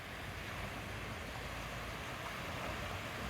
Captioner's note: waves